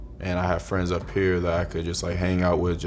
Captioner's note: none